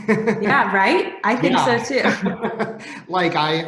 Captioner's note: laughs